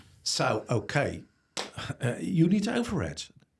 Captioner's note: claps hands